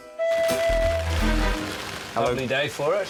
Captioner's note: rain patters